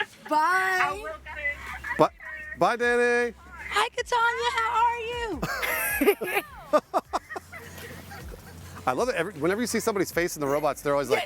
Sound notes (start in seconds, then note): 3.3 laughter; 7.1 laughter